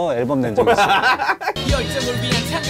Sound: laughing

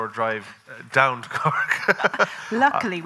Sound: laughing

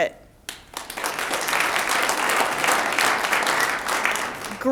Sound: audience applauds

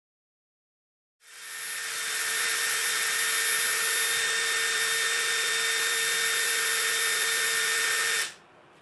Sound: drilling

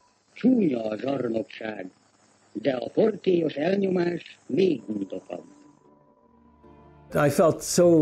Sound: speaking hungarian; speaking hungarian

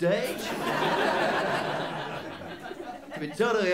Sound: laughter

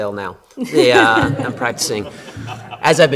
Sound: laughter

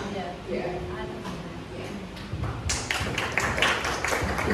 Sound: clapping

